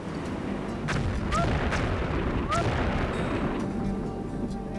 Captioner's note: whale explodes